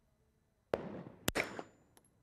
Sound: bang

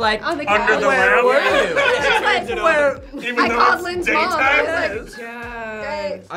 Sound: group yells and laughs

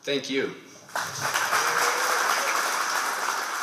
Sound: applause

